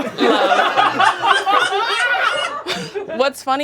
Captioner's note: audience laughing